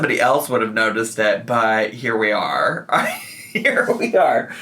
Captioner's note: laughs